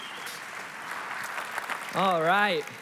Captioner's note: congregation applauding